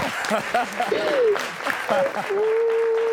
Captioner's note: audience applauding; sobbing; laughing